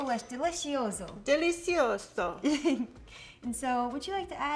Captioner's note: laughing